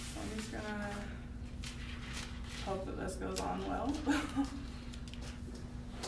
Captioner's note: laughs